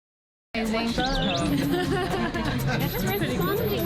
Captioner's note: high pitch ringing